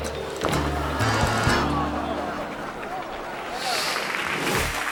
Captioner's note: audience gasps; audience applauds